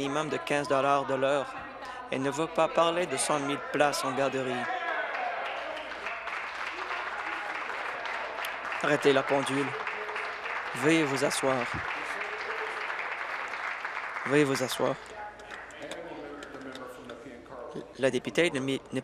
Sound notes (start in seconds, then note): 9.9 applause